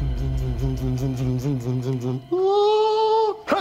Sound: humming soundtrack

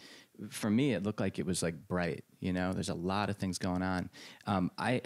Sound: none

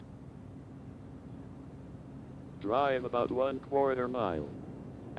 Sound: none

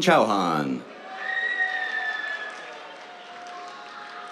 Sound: cheers, applause

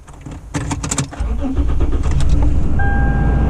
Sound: car starting

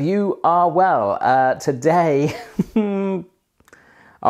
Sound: laughs

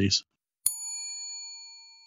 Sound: bell dings

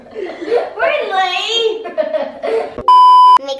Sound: laughing; laughing

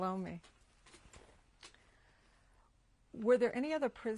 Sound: pauses for 3 seconds

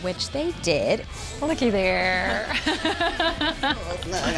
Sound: laughing

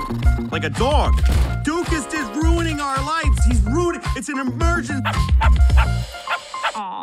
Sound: barking

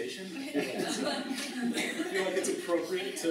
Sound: laughter

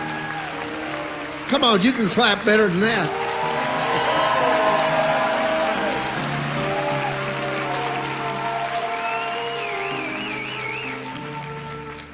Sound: laughs

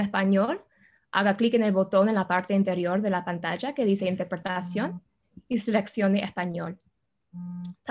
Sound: speaks Spanish

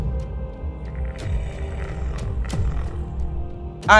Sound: Mohuru growls

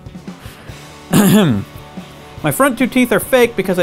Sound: clears throat

